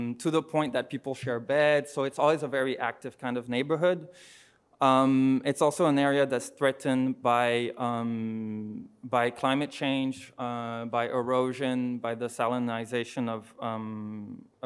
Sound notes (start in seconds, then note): none